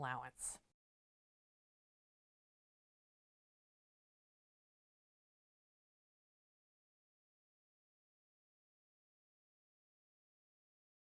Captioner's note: no Sound Present